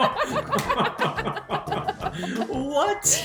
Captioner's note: both laugh; claps